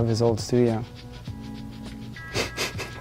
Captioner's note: laughs